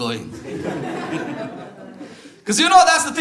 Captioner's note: audience laughter